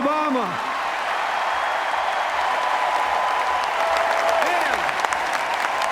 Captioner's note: cheers, applause